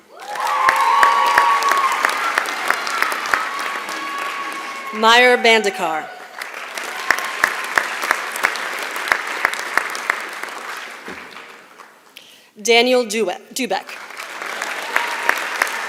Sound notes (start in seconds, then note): 0.2 applause; 6.2 applause; 13.8 applause